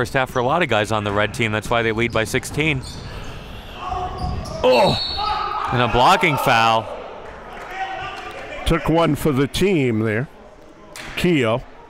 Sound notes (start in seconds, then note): 4.1 whistle blows; 4.2 groans; 7.3 applauding